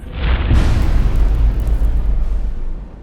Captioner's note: impact